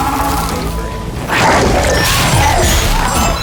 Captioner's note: energy warbling; air whooshing; bodies thudding